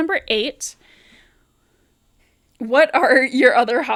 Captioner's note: rallying breath lmao